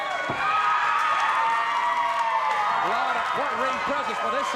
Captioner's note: audience cheers